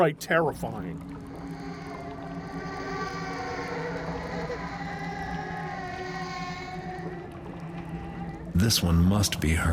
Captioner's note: ghostly baby cries